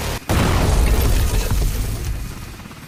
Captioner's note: explosion